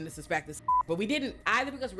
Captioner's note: beep